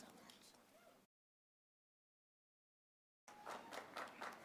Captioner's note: applause